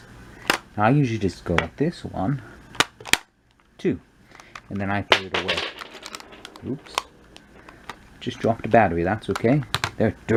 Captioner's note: tap tap; clank